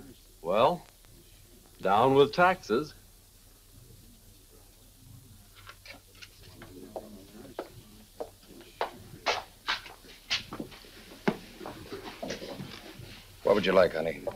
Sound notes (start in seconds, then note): 6.4 footsteps tapping